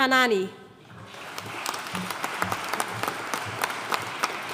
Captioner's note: audience applauding